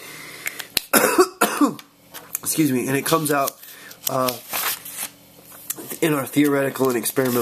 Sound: coughs

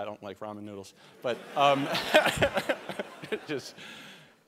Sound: laughter

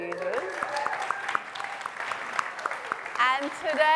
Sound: applause

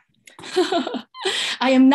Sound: laughs

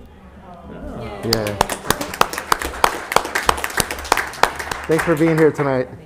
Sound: members clapping

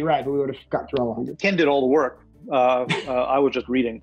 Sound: chuckles

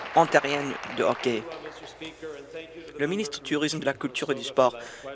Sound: applause

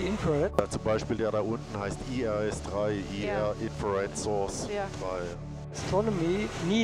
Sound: speaking in German

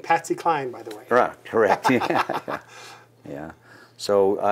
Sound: laughing

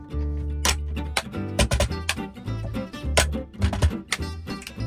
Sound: hands banging; whimsical music

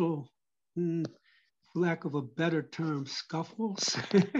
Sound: laugh

